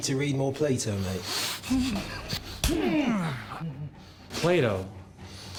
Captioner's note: groaning